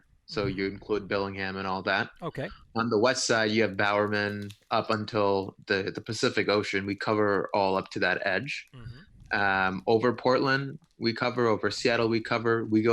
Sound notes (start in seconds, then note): 4.5 murmurs